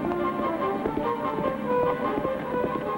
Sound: cracking outside

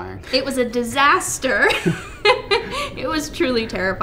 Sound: chuckles

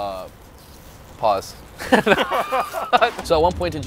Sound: both laughing

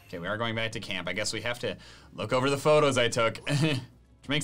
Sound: laughs

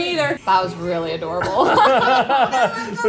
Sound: laughs

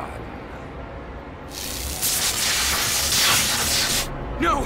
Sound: sizzling

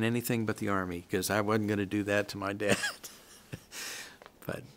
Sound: chuckles

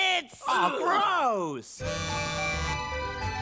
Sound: buzzing, chiming

